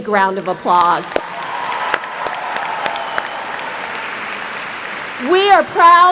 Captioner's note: applause